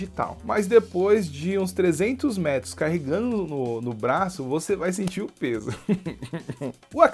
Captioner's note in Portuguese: risos